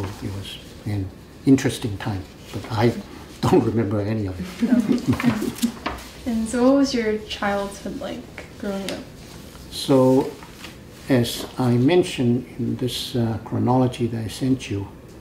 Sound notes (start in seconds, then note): 4.4 laughs